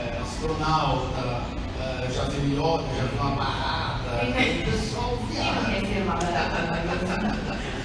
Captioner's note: laughs